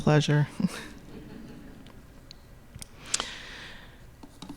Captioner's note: audience laughing